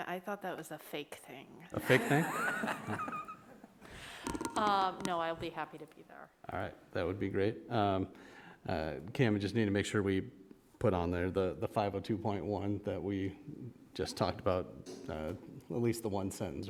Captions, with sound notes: I thought that was a fake thing. (group laughs) No, I'll be happy to be there. - All right, that would be great. Can we just need to make sure we put on there the 502.1 that we just talked about, at least the one sentence, right,